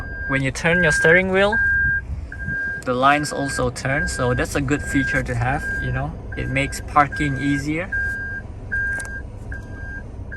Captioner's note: beeping Sound